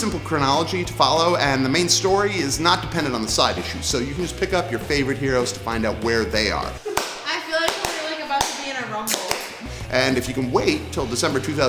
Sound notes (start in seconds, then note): 7.6 claps